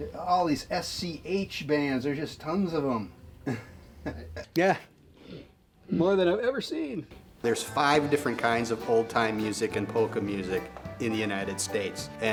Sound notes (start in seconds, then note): 3.4 laughs